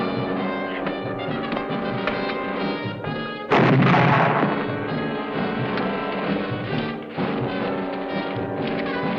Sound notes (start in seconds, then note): 3.5 explosion